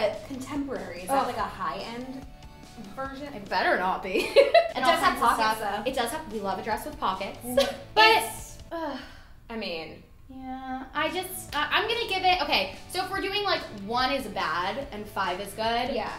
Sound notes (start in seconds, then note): 4.1 laughter; 9.6 groaning